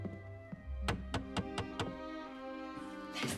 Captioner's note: knock on door